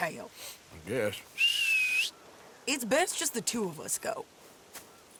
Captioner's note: whistles for her horse